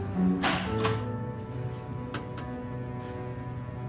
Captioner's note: time clock punching